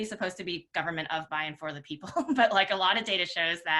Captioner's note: chuckles